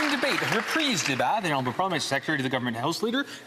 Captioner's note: some Applause